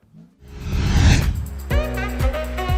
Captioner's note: wind whooshing; lively upbeat music